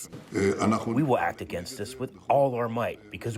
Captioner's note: through translator